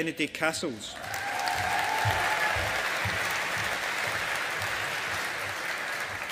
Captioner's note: audience applauding